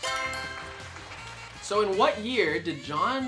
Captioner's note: answer board chimes; crowd claps